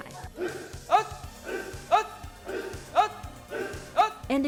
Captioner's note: instructor and students grunting